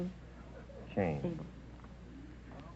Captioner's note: whispering